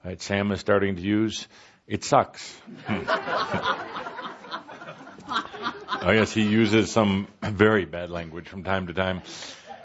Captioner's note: laughter